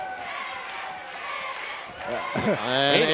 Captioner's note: fans chanting